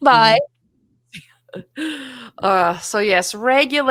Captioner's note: chuckles